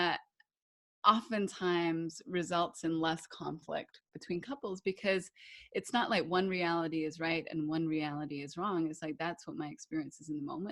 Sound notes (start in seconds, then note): none